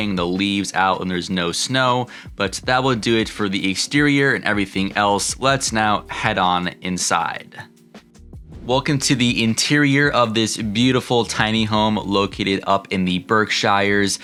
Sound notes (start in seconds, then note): 8.3 swoosh